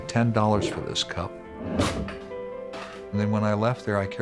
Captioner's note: metal being cut